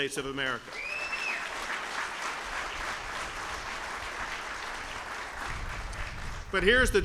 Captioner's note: applause